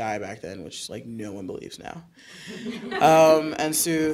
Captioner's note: audience chuckling